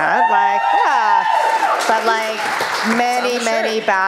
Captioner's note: cheering